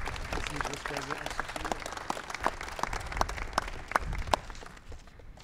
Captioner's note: applause